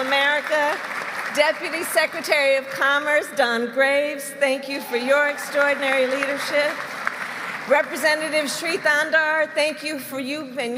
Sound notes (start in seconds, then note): 0.0 applause; 6.4 applause